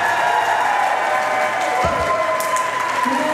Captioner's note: crowd applause